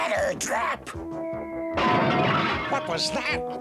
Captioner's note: crash